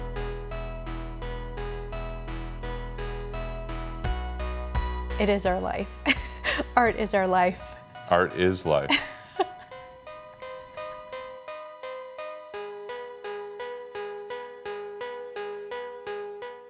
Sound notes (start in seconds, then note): 0.2 calm music; 8.8 laughs; 11.7 calm music